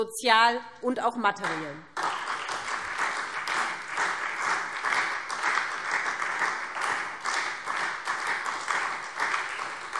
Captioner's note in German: Beifall SPD